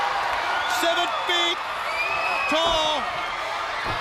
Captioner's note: crowd cheering